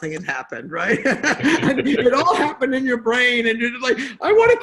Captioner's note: laughs